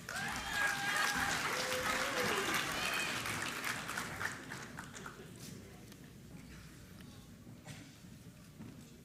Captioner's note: applause